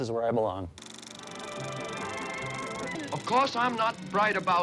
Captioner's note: film projector clicking